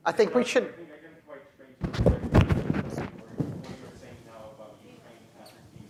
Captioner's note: away from Microphone